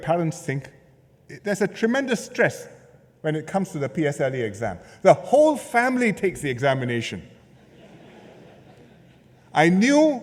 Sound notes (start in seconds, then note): 7.4 laughter